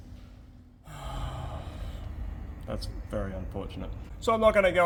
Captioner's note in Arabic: تنهد كبير